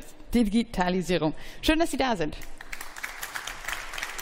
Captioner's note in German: Beifall